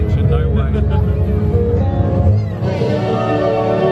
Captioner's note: laughs